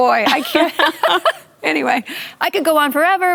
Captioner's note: laughter